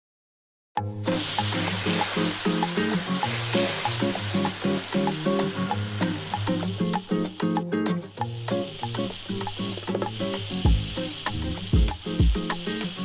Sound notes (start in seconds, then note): 1.0 water hose hissing; 1.1 upbeat music